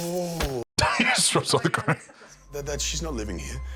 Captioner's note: laughs